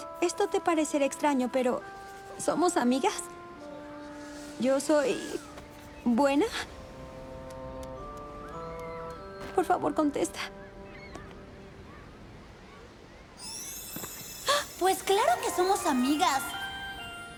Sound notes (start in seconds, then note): 13.3 chimes